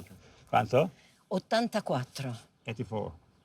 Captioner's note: speaking Italian